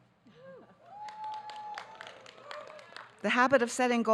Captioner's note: audience cheering